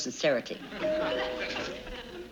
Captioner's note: doorbell rings